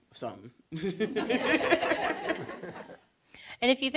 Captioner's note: audience chuckling